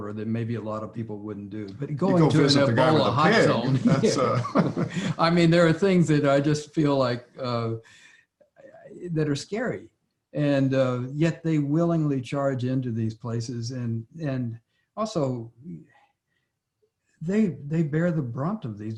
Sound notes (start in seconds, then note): 2.2 Larry and J.B. laughing